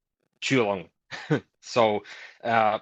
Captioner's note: chuckles